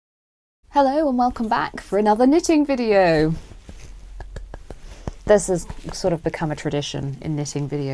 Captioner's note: clapping